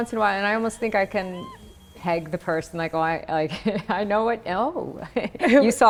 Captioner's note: laughs; laughing